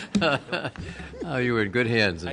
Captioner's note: laughter